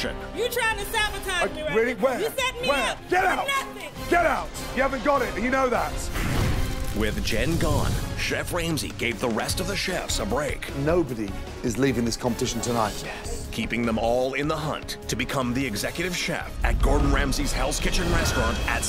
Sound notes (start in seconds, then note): 12.5 whispers